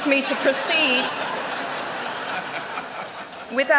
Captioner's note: laughter